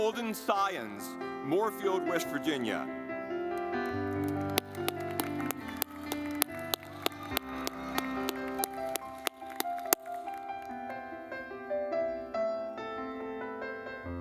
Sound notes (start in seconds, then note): 3.5 gentle music; 3.8 audience clapping